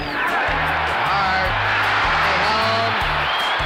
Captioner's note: crowd cheering